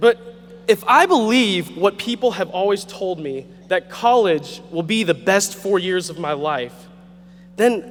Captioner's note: none